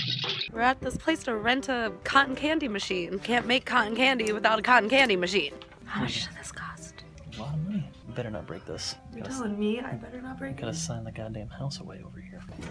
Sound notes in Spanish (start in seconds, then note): 5.7 Susurra